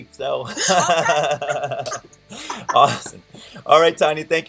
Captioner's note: laughter